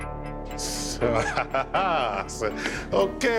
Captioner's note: laughs